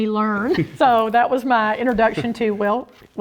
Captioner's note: laugh